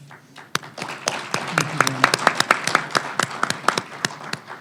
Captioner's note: audience and panelists applause